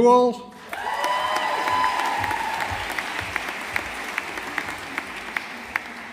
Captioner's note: audience applauding